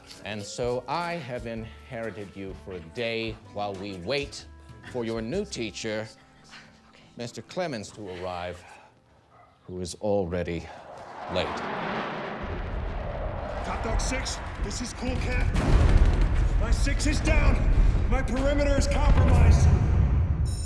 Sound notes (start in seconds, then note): 10.7 jets roaring; 16.0 rapid gunfire blasting